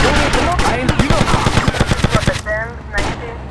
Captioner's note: gunfire; radio chatter